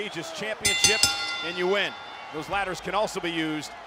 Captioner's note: bell dinging